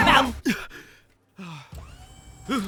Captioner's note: panting; gasping